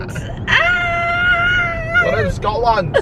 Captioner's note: laughing; squealing